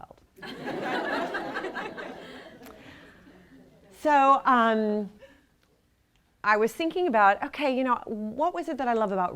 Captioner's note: laughter